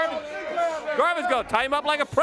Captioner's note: crowd chatter